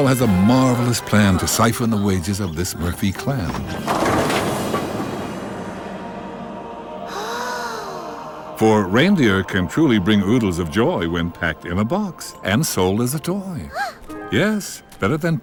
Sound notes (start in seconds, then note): 7.0 gasping